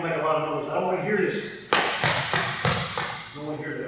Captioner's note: feet banging floor